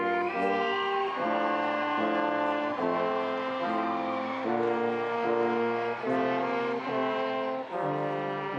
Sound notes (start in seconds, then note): 0.0 audience applauding and cheering